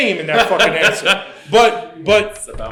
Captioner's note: laughs